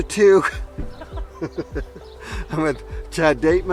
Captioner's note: group laughs